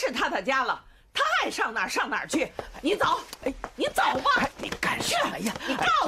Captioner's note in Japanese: 冷笑一声